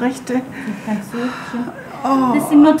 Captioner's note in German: Stöhnen